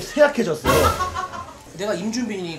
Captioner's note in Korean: 푸하핳하ㅎ핳ㅋㅋㅋㅋ